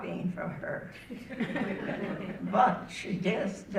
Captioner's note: audience laughing